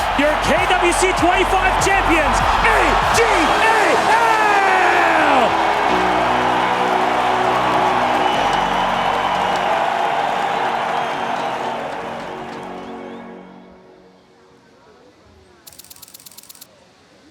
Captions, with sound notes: [commentator in English] Your KWC '25 champions, AG.AL! [crowd cheering, applauding]